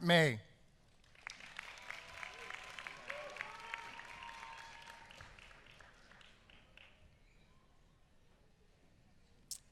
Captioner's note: applause